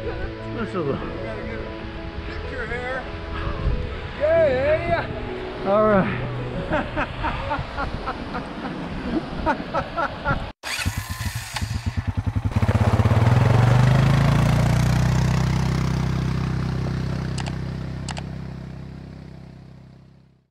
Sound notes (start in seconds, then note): 6.5 laughing; 10.8 ATV Starting; 17.4 click